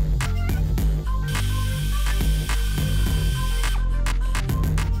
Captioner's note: air-powered drill